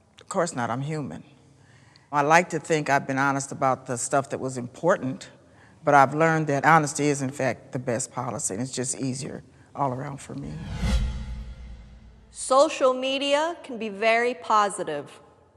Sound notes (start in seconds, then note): 10.3 screen whooshing